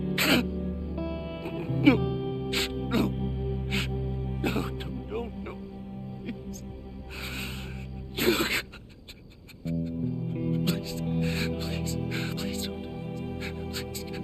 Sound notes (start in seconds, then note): 0.0 sniffs; 8.1 begins crying